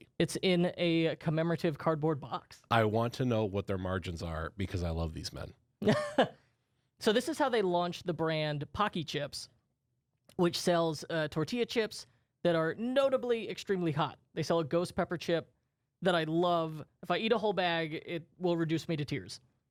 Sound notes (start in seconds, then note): 6.0 laughs